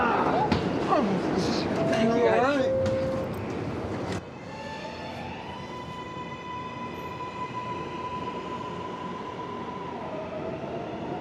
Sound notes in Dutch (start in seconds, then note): 4.9 geluid van treinfluitje die traagjes vervaagt in de tunnels